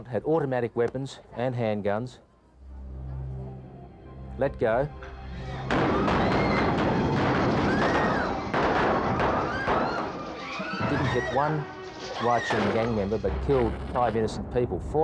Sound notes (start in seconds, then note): 5.4 people screaming; 5.6 gunshots banging